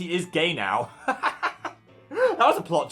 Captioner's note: host laughs